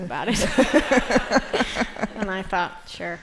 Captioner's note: laughter